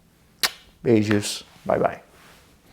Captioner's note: kisses